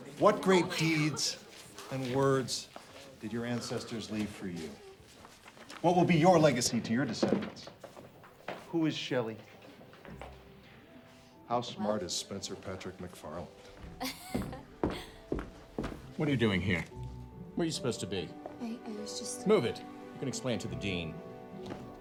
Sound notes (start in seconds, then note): 14.0 student laughs; 21.7 gentle ambient music